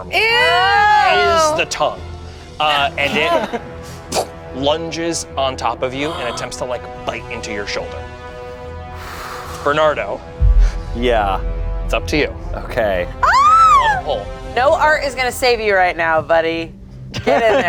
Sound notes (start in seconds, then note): 3.8 whooshes; 13.2 yells